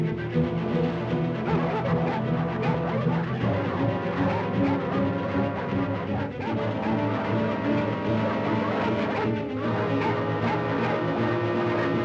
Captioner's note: suspenseful music; dogs barking